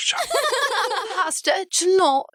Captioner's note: laughter